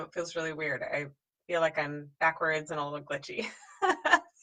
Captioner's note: laughs